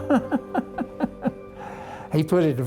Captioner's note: laughing